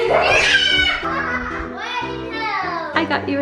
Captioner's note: kids screaming and laughing